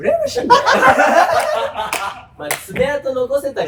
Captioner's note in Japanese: 笑い声